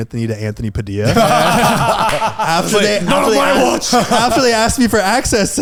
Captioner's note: all laughing